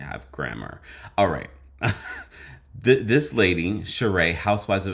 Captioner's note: laughs